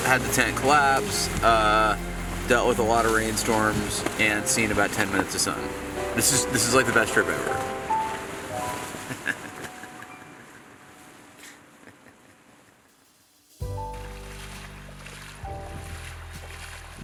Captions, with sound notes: had the tent collapse, dealt with a lot of rainstorms, and seen about 10 minutes of sun. This is the best trip ever. (chuckling) (slow piano music)